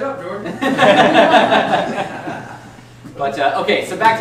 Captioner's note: laughing